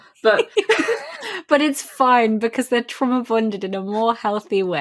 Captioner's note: laughs